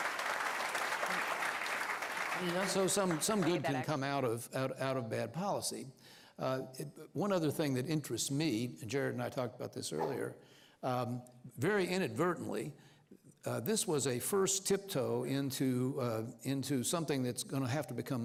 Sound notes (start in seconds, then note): 3.7 applause